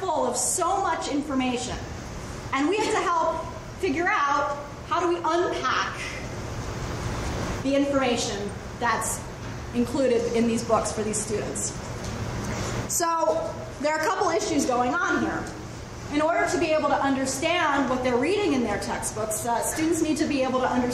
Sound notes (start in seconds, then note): none